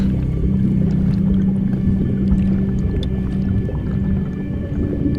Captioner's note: water bubbling